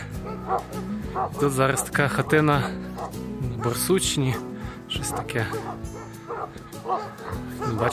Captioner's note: dogs bark